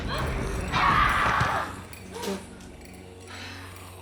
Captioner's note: Betty screams